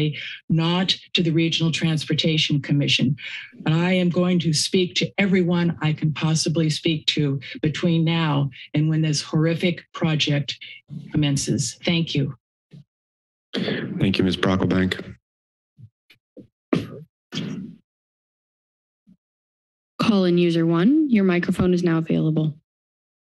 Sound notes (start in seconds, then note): 16.7 mic thumps